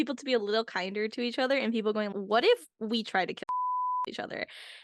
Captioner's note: beep